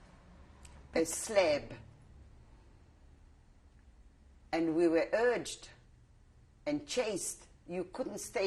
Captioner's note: pauses for 3 seconds